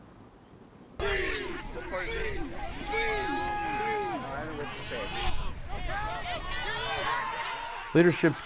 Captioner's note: athlete and Crowd Chatter